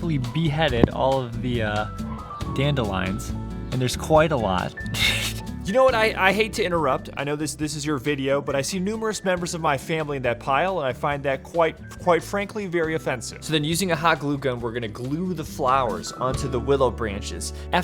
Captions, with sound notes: So, we have successfully beheaded all of the dandelions and there's quite a lot (laughs). - You know, I hate to interrupt. I know this is your video, but I see numerous members of my family in that pile and I find that quite frankly, very offensive. - So then, using a hot glue gun, we're gonna glue the flowers onto the Willow branches.